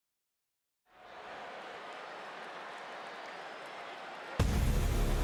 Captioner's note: applause